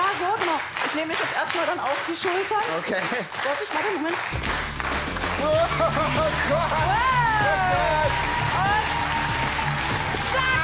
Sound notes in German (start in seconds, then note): 5.4 lacht